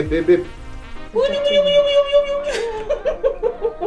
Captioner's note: playful sounds